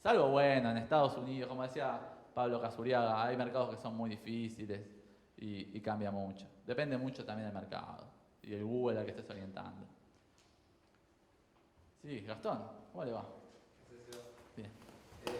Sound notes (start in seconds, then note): none